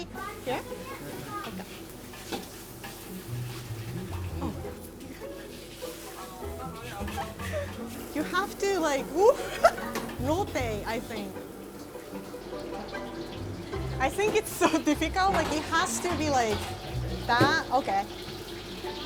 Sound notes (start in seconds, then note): 7.1 chuckling; 9.2 laughing